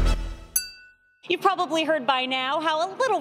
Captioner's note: glasses clinking